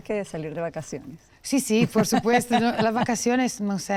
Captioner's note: laughs